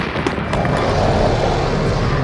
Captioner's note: roars